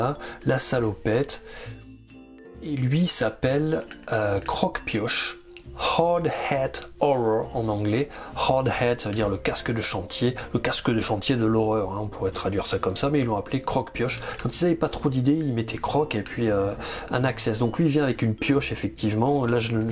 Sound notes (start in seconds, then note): 3.2 in french